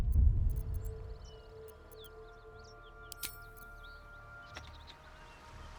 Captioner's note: silence